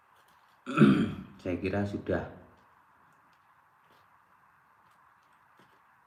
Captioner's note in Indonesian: berdehem